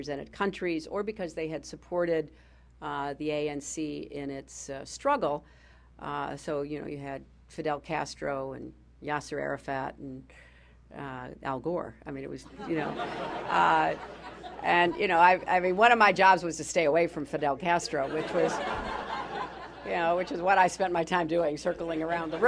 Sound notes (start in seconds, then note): 12.4 laughter; 17.9 laughter